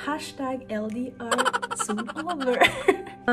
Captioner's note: hahaha!